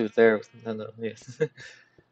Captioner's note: laughs